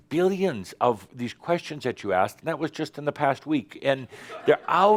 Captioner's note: some chuckles